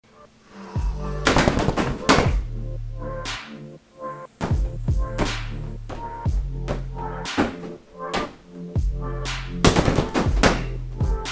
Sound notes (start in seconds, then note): 1.2 fists thudding on bag; 3.1 laid back music; 4.4 thudding continues